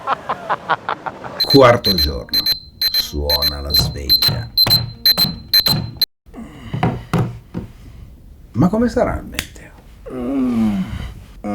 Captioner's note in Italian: Risate